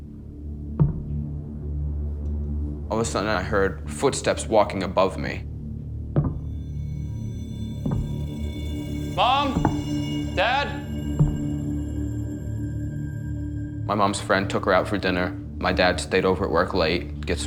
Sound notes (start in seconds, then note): 5.5 footsteps walking